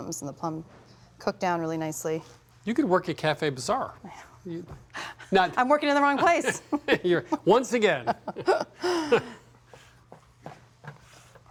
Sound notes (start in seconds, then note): 4.2 exhales; 6.0 laughing; 8.7 both laughing